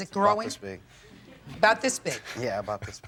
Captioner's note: audience laughing